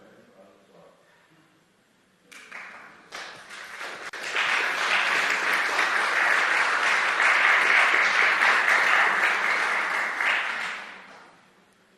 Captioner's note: clap